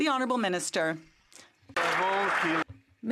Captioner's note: some Applause